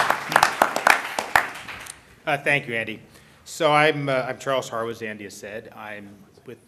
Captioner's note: applause